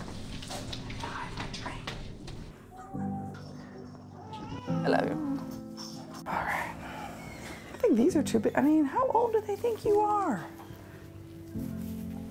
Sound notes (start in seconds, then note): 5.8 sighs